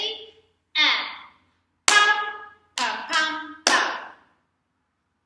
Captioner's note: clap/thigh/thigh/clap